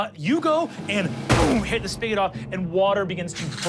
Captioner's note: fist bangs